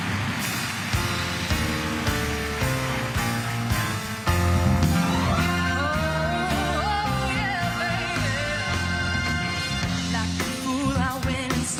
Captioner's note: crowd cheering